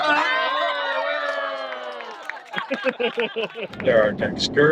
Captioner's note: people cheering